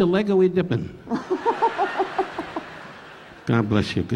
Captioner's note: laughing; audience laughing